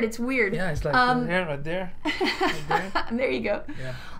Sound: laughter

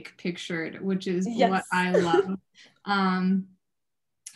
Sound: chuckles

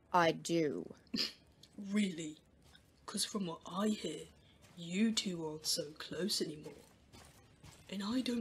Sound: James snorts

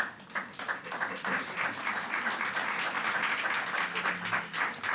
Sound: audience clapping

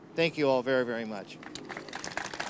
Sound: applause

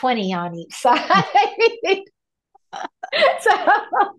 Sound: laughs

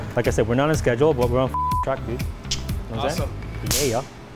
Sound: beep

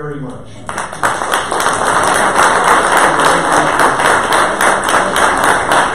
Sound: audience applause

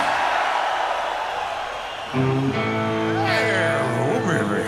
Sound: crowd cheers

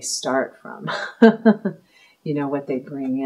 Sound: laughing

